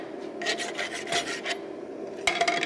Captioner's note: rasp filing